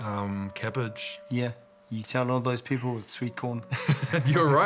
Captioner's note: laughs